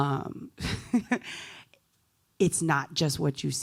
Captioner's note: laughs